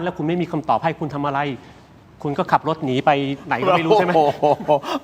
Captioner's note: laughs